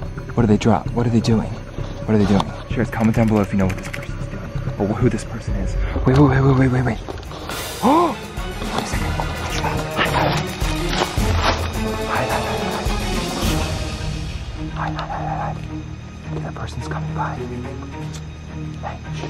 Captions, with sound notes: What did the drop? What are they doing, what are they doing? Sharers, comment down below (type writer clacking) if you know what this person's doing, or who this person is. - Wait wait wait wait wait wait wait! (gasps) Wait a second, oh my gosh, hide, hide, hide. Hide, hide, hide. (leaves crunching) (dramatic action music) Hide hide hide hide hide. (shushing) That persons coming, guys. (shushing)